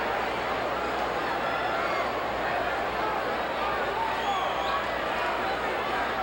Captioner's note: audience chattering continues